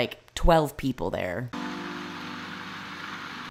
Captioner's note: rain